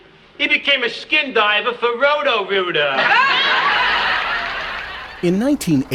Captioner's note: laughter